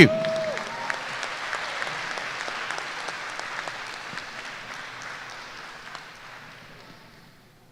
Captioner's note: applause